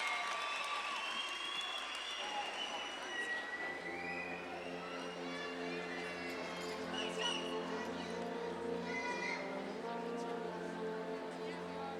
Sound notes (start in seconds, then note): 3.6 gentle majestic music; 4.0 audience chattering